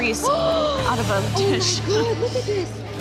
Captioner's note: gasps